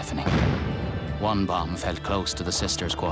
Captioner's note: explosions and gunfire